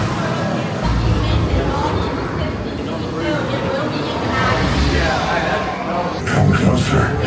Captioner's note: guest chattering